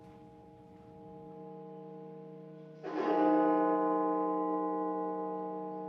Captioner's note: bells tolling